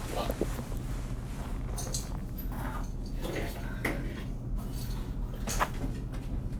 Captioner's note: rustling